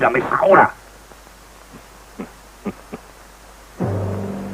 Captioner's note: chuckles